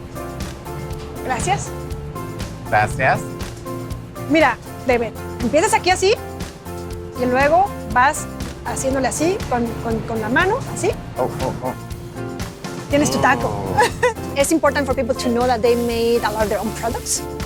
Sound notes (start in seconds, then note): 0.2 speaks in Spanish; 5.3 speaks in Spanish